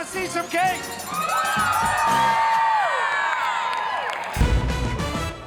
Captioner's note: crowd cheers and bells ring